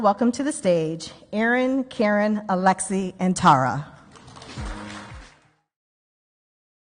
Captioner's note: audience clapping